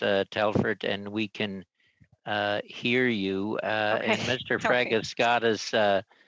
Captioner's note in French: voix de l'interprète